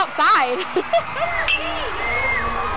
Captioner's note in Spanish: Risas; La pelota de béisbol resuena en el bate de béisbol, animando